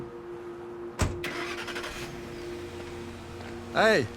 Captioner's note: truck starting